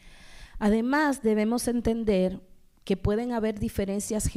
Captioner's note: speaking spanish